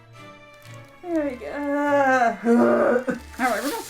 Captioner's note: moans